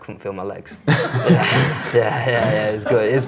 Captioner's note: laughs